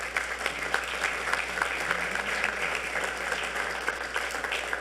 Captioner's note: audience applauding